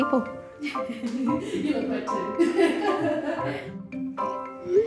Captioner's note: laughter